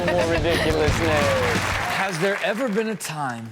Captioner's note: audience claps